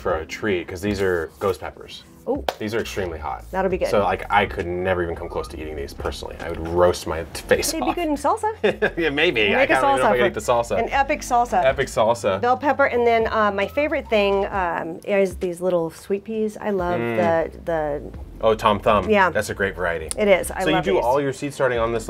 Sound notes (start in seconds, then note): 7.6 laughs